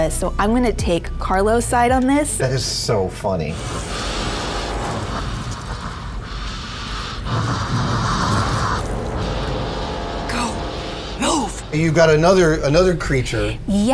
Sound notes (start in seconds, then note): 4.4 Xenomorph snarling